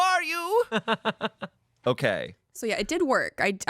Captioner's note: laughs